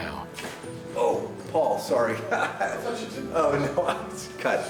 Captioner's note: chuckles